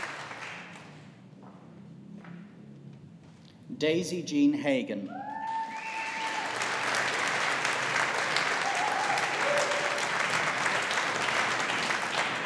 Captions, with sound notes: Daisy Jean Hagan. (AUDIENCE APPLAUDING)